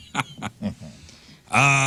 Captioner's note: laughing